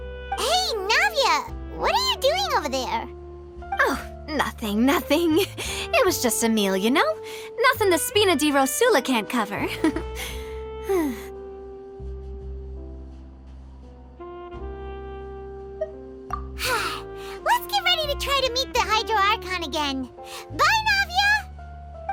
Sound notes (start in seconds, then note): 10.8 sigh